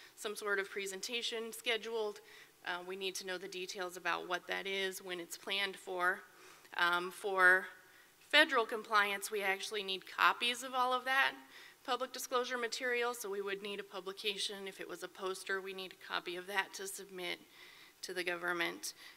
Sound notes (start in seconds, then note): none